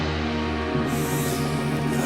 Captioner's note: sniffs; gagging